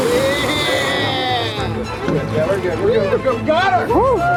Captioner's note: cheering